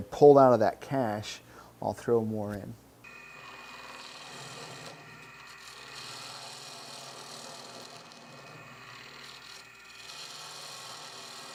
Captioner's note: machine whirring